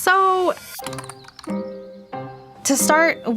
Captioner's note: inquisitive music; keys clicking